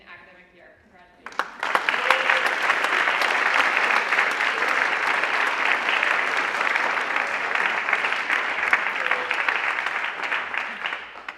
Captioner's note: applause